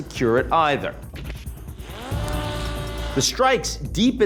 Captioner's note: drone whirring